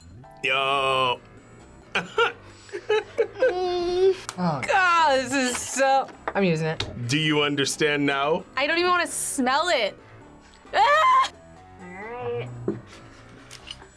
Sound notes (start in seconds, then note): 2.6 laughs; 2.9 whines; 3.5 sighs; 10.8 screams